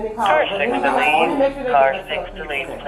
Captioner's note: officer On Radio